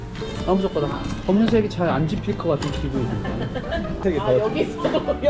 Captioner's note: satisfied laughter